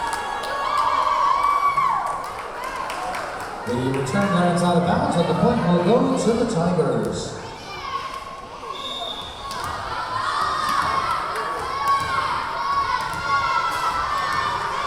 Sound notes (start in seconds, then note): 0.0 cheering; 0.1 clapping; 7.8 yelling; 8.7 whistle blowing; 11.9 yelling